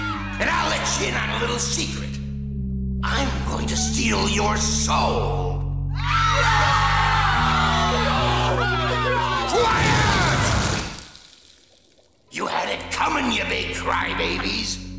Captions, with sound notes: And I'll let you in on a little secret... I'm going to steal your soul. [screaming] Quiet! You had it coming, you big crybabies!